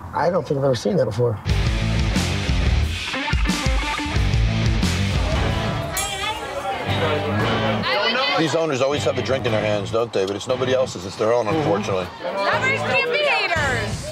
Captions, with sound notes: - I don't think I've ever seen that before. (thrilling music) (indistinct customers talking) - These owners always have a drink in their hands, don't they? But it's nobody else's. It's their own, unfortunately. - Lovers can't be haters.